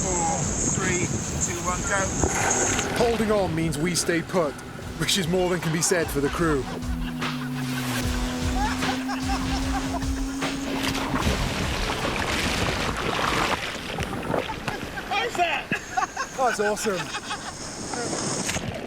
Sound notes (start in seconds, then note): 5.9 both laughing; 15.2 shouting